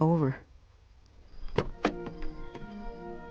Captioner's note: sound of car door opening; cheerful violin music plays